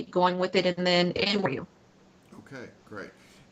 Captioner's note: technical interference